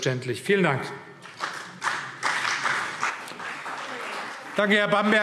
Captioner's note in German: Beifall CDU